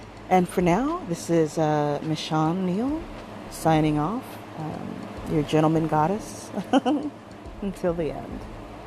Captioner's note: chuckles